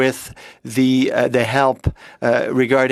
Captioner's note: speaking French